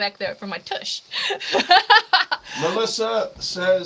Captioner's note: laughing